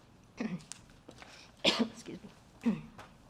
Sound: coughs

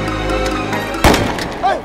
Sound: gun shot

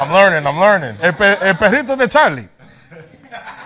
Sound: speaking spanish; laughs

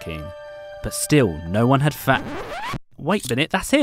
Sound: tape screeching

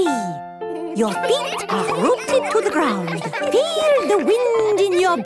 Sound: all giggling

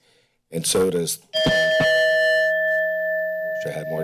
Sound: timer ringing

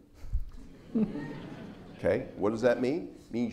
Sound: audience laughs

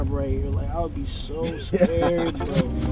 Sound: laughs

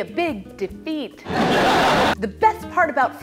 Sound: laugh track

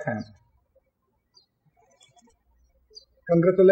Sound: birds chirping

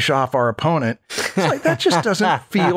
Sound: laughter

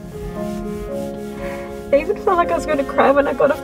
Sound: sobbing

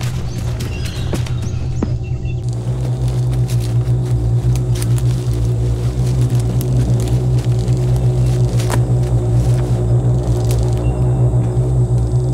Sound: drone

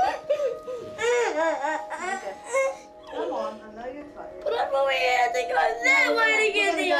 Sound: crying

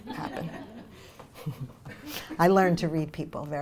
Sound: audience laughter; laughs

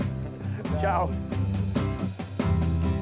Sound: laughing

